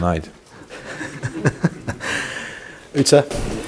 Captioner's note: general laughter